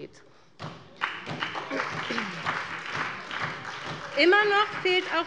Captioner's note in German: Beifall bei der SPD